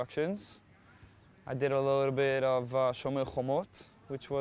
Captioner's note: hebrew